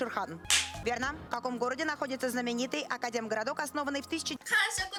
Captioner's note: Hikakin's handclap